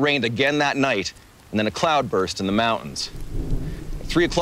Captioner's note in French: grondement de tonnerre